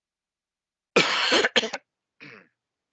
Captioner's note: coughing